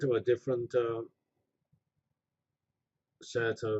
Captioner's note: pause